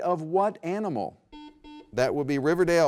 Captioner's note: buzzer beeps